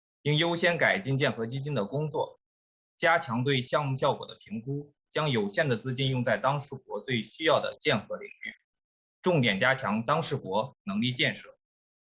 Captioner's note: speaking foreign language